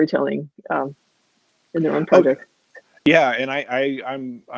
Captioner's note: voice muffled